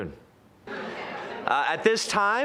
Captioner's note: general chatter